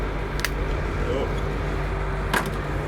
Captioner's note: crack